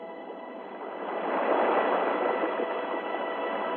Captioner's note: waves crashing